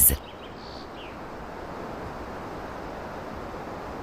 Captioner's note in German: Wasserrauschen, Vogelzwitschern